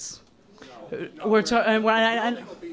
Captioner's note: spiking off microphone